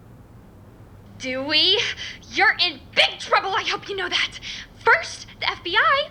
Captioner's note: phone